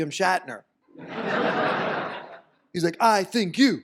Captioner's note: audience laughs